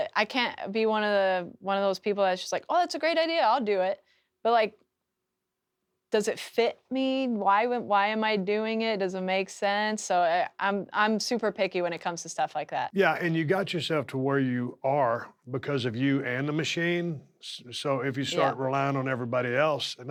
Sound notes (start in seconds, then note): none